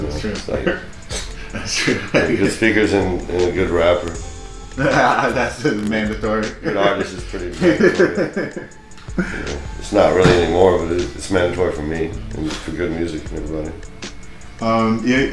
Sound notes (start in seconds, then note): 7.4 laughter